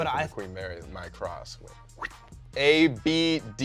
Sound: whistling

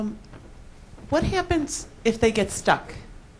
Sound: voiceover

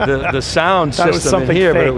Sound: laughing

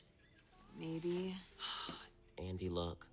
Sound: sighs

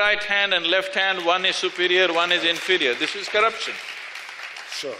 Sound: applause

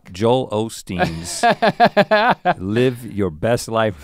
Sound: Link chuckles

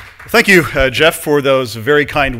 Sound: applause

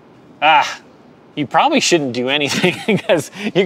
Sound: laughs

